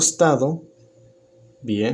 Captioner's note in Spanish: Silencio